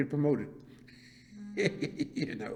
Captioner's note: laughs